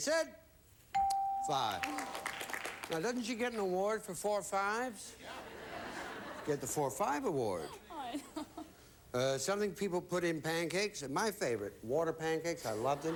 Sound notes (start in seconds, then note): 1.8 audience applauding; 5.2 audience laughing; 12.7 audience laughing